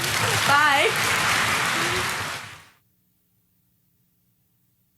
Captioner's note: audience applauding